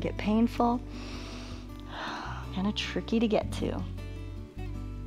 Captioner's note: inhales and exhales